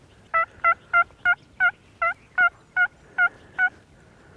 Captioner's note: turkey calls